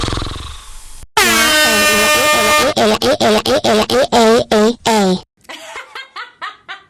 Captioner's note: snoring; screaming, air horn blaring; laughing